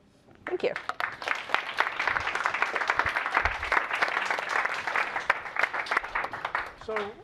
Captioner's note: applause